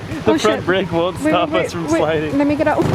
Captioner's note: laughing